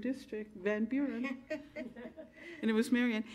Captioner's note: women chuckling